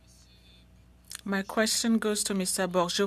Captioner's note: speaking French